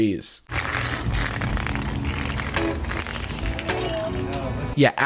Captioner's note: cane scraping concrete, music